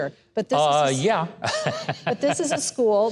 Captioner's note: laughs